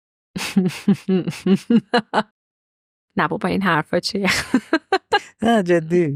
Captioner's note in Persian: خنده